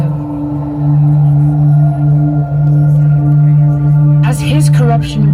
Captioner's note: hmm... Wind's howling